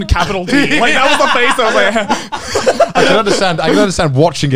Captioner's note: murmurs